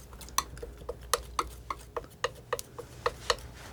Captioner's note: tapping